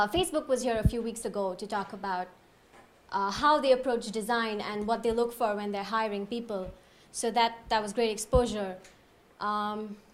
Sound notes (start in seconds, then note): none